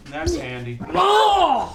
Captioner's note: groans